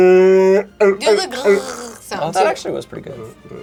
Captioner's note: mimic walrus howling; mimic gurgling